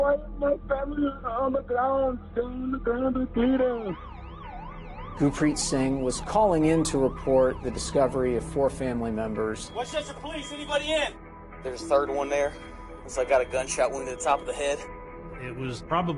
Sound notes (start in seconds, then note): 3.9 sirens wailing